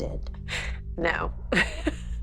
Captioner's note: laughs